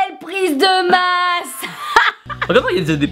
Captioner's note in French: Rires